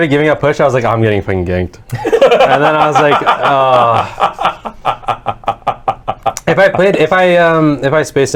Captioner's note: groans